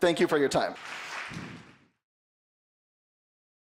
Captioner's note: applause